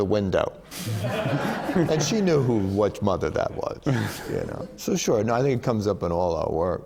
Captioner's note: laughter